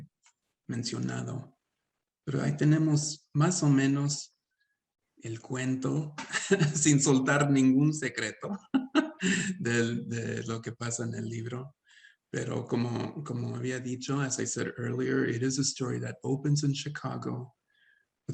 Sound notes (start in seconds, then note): 8.4 laughing; 10.0 continues speaking Spanish